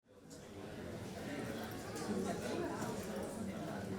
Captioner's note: crowd chattering